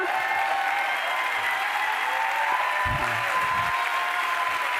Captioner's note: cheers, applause